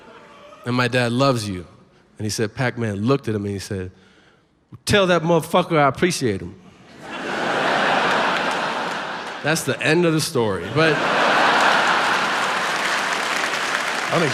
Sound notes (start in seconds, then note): 6.8 audience laughs; 10.7 audience laughs and claps